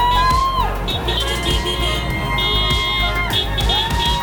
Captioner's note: horns honking; crowd cheering